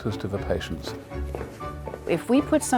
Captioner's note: footsteps